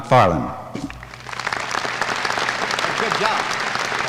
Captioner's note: applause